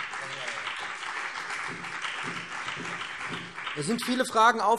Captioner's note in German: Beifall BÜNDNIS 90/DIE GRÜNEN und CDU